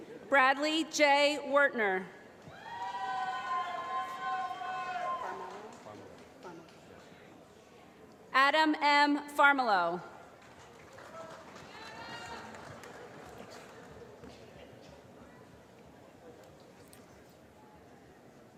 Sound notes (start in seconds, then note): 2.7 applause; 10.2 applause